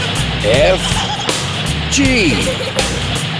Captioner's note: giggling